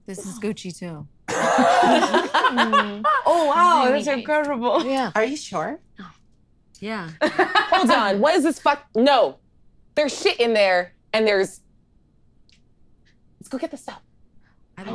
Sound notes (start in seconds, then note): 1.3 all laughing